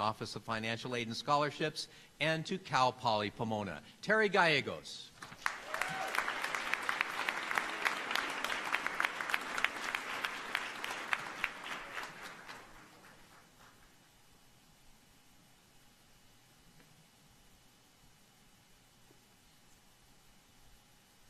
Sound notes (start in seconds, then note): 2.6 applause